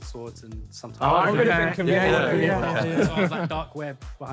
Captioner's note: Sidemen cheer